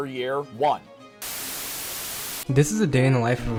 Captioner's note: TV static